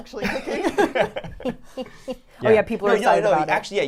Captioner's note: all laughing